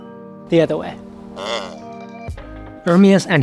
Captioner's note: bell clanking; cow mooing